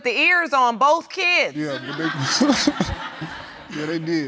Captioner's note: laughs; audience laughing